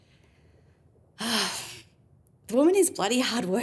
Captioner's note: Laura sighs